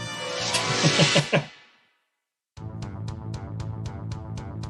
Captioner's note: chuckles